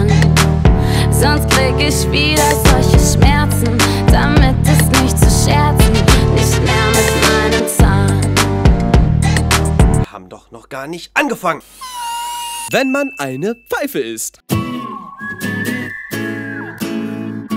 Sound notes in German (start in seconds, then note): 11.7 kreischen; 14.5 pfeifen